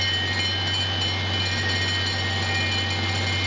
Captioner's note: bell ringing